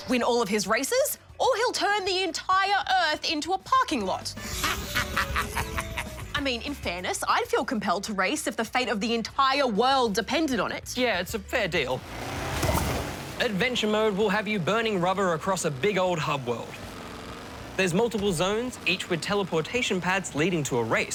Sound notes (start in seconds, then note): 4.4 laughs evilly